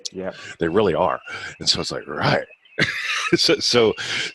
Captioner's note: laughing